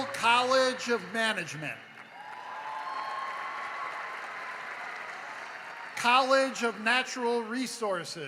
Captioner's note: cheering and applause